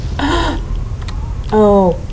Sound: gasp

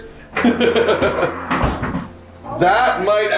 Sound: laughing

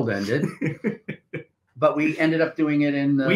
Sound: chuckling

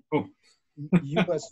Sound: laughs

